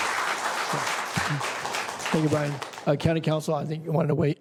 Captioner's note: applause